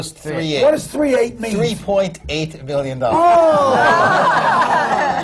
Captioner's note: laughter